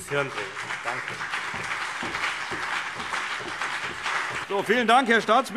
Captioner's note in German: Beifall CDU und BÜNDNIS 90/DIE GRÜNEN